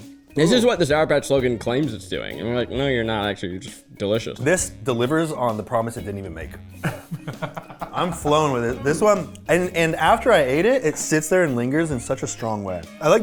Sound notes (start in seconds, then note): 6.8 laughing